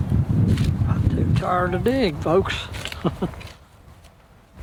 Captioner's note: ha Ha